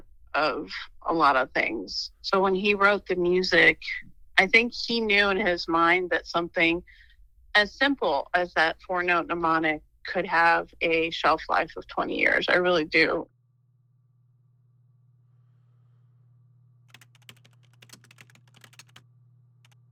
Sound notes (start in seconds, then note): 13.6 machine rumbling faintly; 16.9 keys clicking